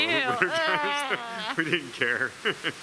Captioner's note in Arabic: يضحك